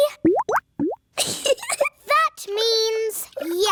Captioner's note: bubbling; giggles